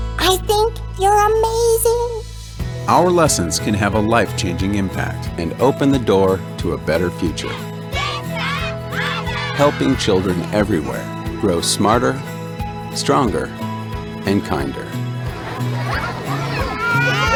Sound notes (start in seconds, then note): 7.9 children cheering; 15.3 children laughing